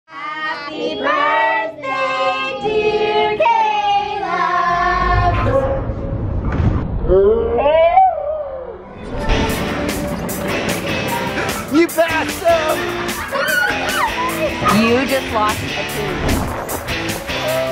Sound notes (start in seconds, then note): 6.9 slow motion yelling; 9.6 upbeat music; 17.5 upbeat music